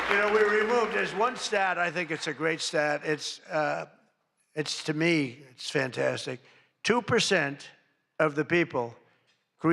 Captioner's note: applause